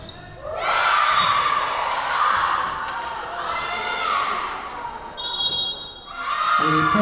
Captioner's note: Lions cheering; whistle blowing